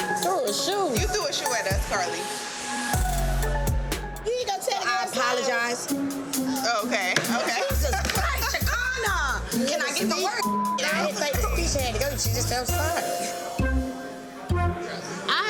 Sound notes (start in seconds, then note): 10.4 beep